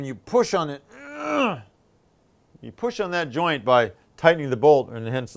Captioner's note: groans